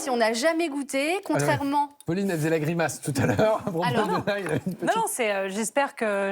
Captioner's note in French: rires